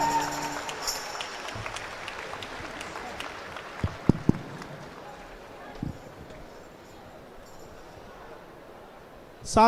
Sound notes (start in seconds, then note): 4.4 applause